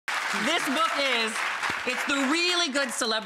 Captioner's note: audience clapping